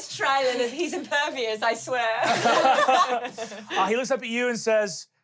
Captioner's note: everyone laughs